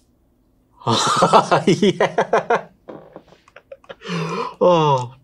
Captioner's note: laughs